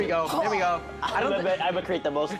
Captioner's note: Gordon groans